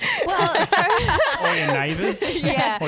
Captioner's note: laughing together